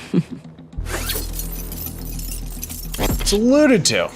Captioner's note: Ekko chuckles; metallic watch unfurls